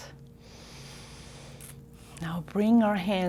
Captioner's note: deep breath